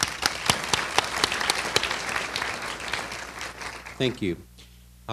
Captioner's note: applause